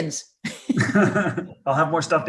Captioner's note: laughing